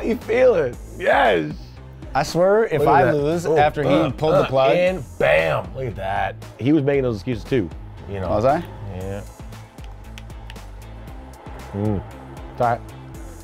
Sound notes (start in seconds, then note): 9.9 crowd cheering; 9.9 energetic music